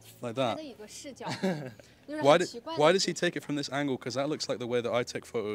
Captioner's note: laughs